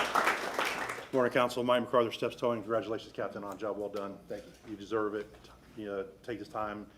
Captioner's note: applause